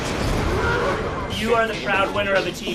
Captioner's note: roar